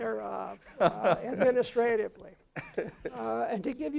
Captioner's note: laugh